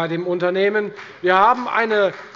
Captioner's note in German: Beifall bei der FDP